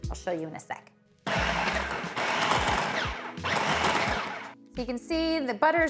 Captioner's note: processor whirs